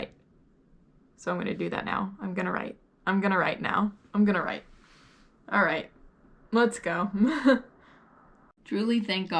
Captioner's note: chuckles